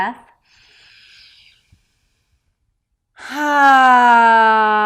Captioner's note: sighs loudly